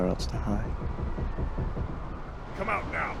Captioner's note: ship creaks